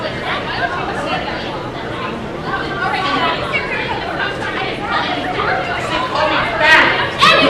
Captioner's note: incoherent yelling